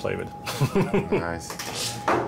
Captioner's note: chuckles